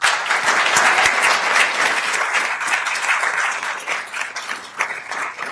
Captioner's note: attendees applauding